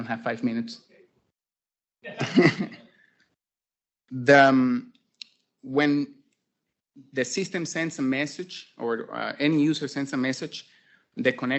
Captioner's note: laughs